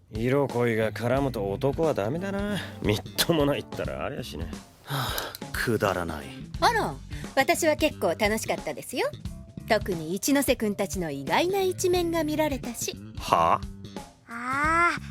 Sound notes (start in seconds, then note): 4.8 sighs